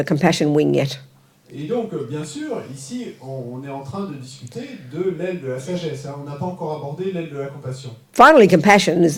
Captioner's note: French